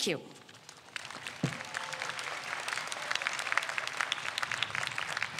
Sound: audience applauds

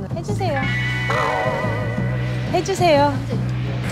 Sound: voice sounds a bit cute

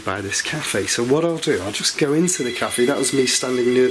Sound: alarm rings

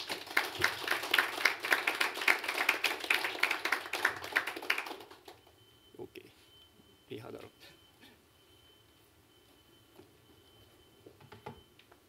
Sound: applause

